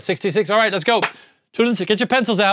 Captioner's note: claps